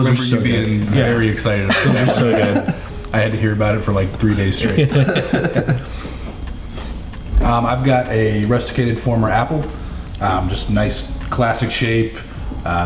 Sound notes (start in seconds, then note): 4.2 chuckling